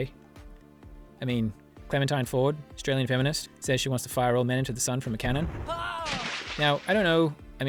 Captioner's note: blam, splash